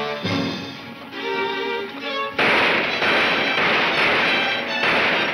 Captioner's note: dramatic music; gunshots banging